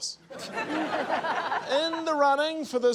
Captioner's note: laughter